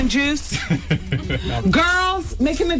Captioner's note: laughing